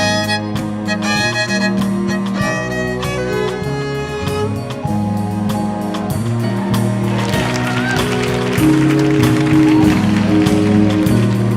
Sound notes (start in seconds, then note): 6.8 audience applauding